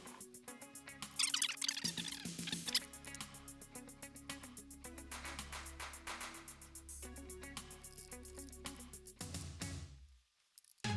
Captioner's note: sped up audio